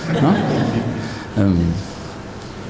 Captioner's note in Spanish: risas